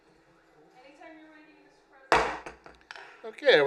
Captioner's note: gavel